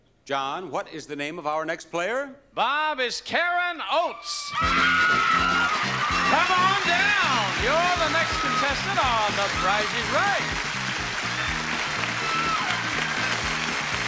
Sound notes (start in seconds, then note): 4.8 crowd applauds; 10.8 applause continues